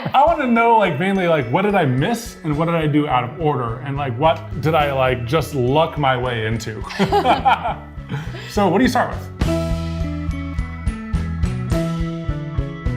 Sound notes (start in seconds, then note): 6.8 laughs; 11.6 upbeat music